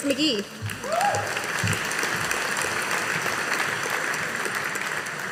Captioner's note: audience applauding